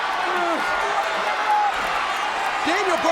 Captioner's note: crowd cheering